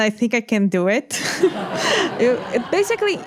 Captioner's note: laughter